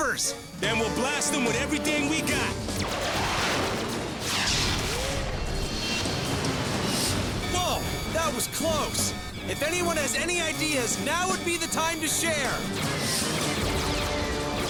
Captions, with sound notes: THEY'RE STIFLING US WITH SHEER NUMBERS! THEN WE'LL BLAST 'EM WITH EVERYTHING WE'VE GOT! (WEAPONS FIRE, JETS WHOOSH) WHOA! THAT WAS CLOSE. IF ANYONE HAS ANY IDEAS, NOW WOULD BE THE TIME TO SHARE!